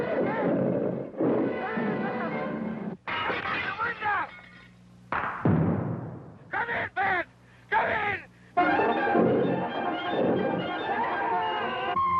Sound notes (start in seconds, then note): 3.1 glass shattering; 5.1 gunfire popping; 8.6 intense music